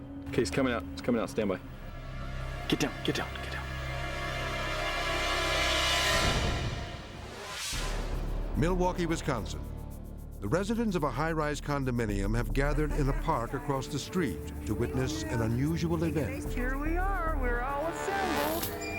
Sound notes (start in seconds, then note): 4.4 ominous music; 7.4 transition whooshes